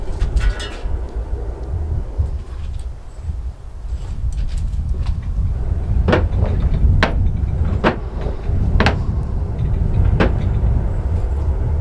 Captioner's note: bellows banging